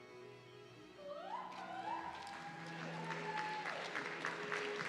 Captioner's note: audience cheering